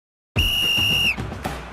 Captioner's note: whistle blowing; upbeat marching band music